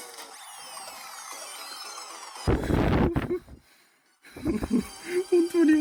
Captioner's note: nervous Laughter